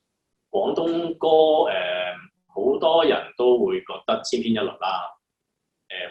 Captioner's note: Cantonese